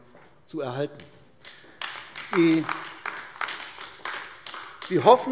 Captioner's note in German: Beifall AfD